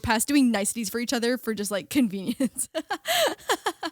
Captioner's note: laughing